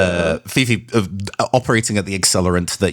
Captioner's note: stutters